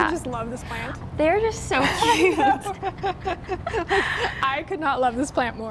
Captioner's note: laughs